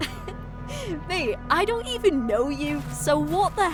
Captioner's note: laughing